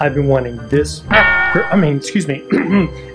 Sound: boinging; clears throat

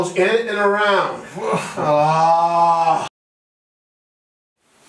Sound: scream

